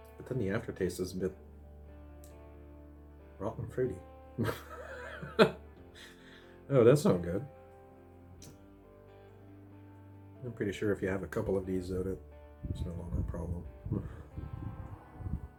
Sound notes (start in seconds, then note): 4.4 laughs